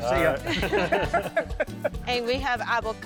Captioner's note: both laughing